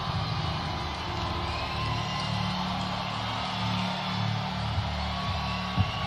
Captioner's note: cheers and applause